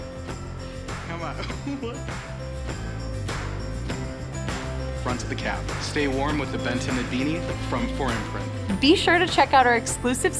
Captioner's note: people talking